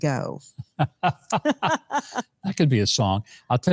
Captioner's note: both laughing